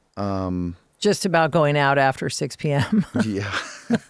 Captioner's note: laughs